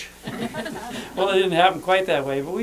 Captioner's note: laughter